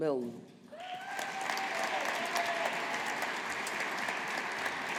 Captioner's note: audience applauding